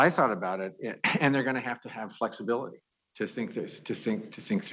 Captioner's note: laughs